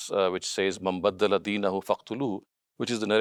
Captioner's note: speaking in foreign language